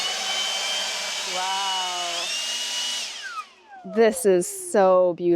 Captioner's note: blower whooshes